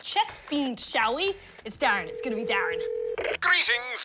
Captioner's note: phone ringing tone